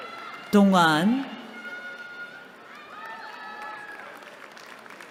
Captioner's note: cheering